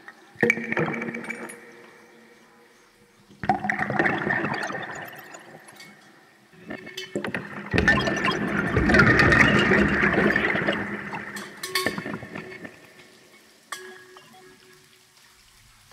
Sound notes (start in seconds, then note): 11.7 bell ringing